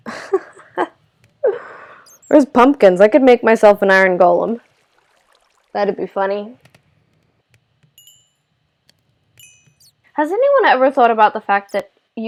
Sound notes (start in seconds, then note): 0.0 laugh